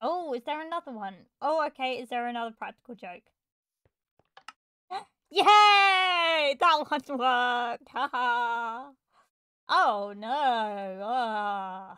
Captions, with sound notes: Oh, is there another one? Oh okay, is there another practical joke? *gasp* Yaaaay! That one worked, haha Oh noooo, argh...